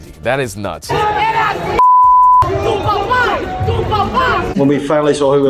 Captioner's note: yelling in Spanish